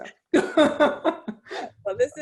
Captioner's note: laughs